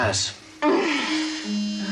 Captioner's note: disappointed groans